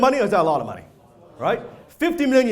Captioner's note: crowd